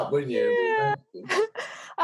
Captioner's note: laughs